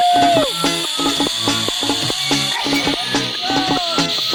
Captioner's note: screaming at the top of my lungs!